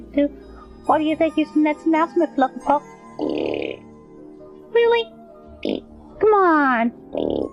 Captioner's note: blows raspberry; blows raspberry